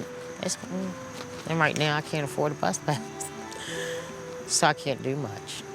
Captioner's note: chuckles